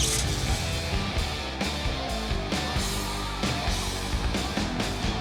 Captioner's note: crowd clamoring; electricity crackling; crowd clamoring